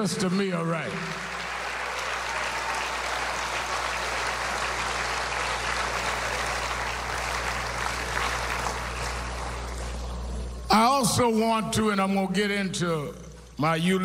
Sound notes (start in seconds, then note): 8.7 applause